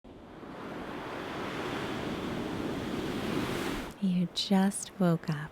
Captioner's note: waves softly roaring